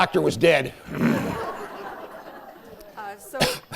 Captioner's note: laughter